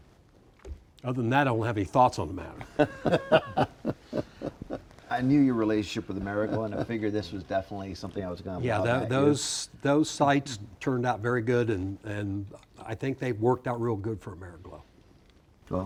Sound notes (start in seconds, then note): 2.6 laughing; 6.3 chuckles